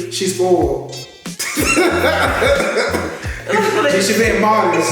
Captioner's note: both laugh